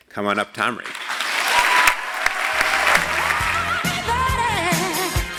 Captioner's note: applause